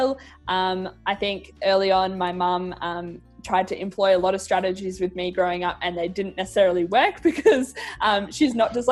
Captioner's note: chuckles